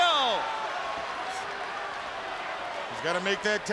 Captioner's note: crowd cheering